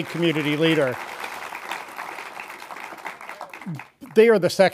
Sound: audience applauding

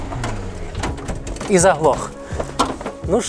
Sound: engine

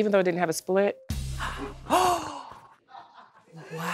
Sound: gasps

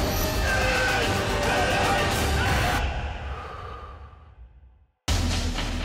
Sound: lively music; man grunts; intense music

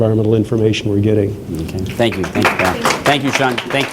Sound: applause

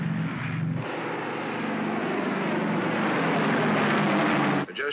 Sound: aircraft rumbles; aircraft roars overhead

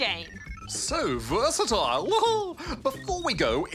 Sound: laughs

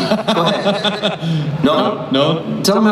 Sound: laughs

